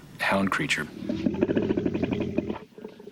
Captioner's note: snarling